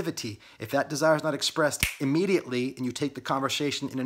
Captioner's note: fingers snap